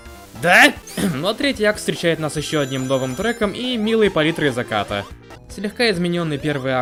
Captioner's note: cough